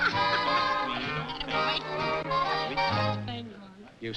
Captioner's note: laughs; chatter